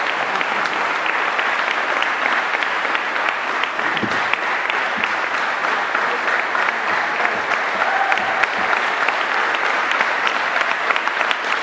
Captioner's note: applause